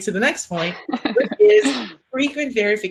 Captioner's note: laughing